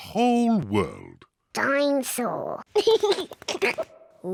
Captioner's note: giggles